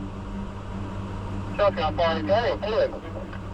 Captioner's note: radio Chatter